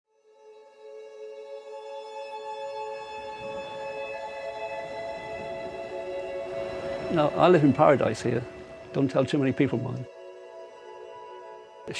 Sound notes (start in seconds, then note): 0.3 serene music; 3.0 waves rolling gently